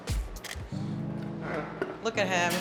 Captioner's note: camera snaps